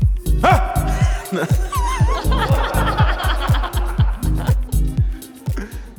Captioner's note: laughs; everyone laughing